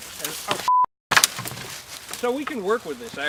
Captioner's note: beep; wood banging